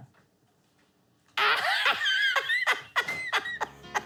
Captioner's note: laughing; upbeat music